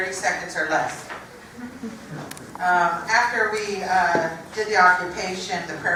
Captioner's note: laugh